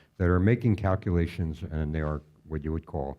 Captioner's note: none